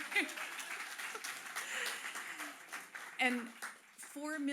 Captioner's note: applause